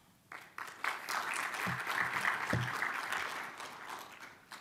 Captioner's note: audience applauding